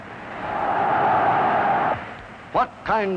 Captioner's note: Hitler speaking in German; crowd roaring